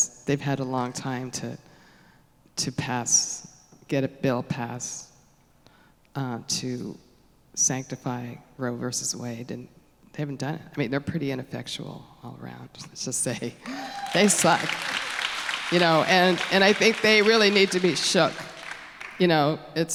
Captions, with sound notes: because they've had a long time to get a bill passed to sanctify Roe v. Wade and they haven't done it. They're pretty ineffectual all around let's just say. They suck. [AUDIENCE CHEERS AND APPLAUSE] And I think they really need to be shook.